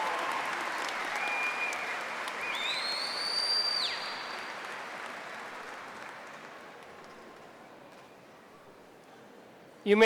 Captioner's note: applause